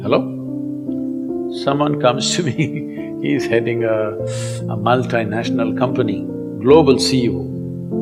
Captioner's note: laughs